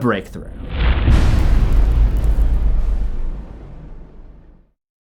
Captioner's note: impact